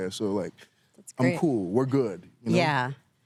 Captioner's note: none